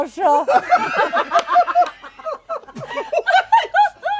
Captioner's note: laughter